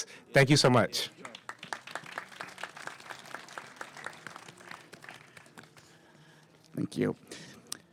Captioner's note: applause